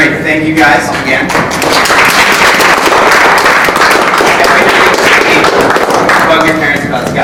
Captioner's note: applause